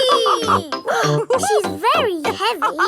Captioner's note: both straining; madam gazelle laughing; giggles